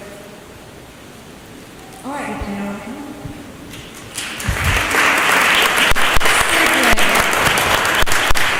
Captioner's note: applause